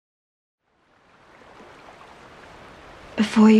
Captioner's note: running water